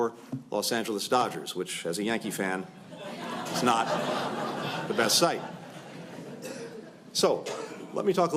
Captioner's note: laughter